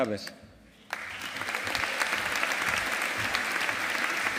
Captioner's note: audience applauding